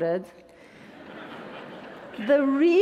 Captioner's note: attendees laughing